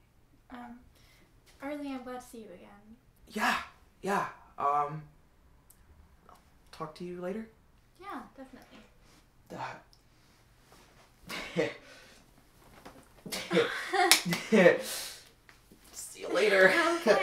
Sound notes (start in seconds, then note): 11.3 awkward laugh; 13.3 both laugh